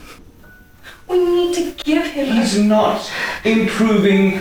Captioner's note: sobbing